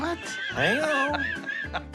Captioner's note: laughing